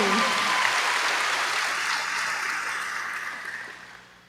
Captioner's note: applause